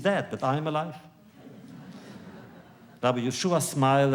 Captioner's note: laughter